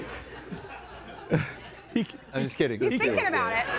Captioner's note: audience laughing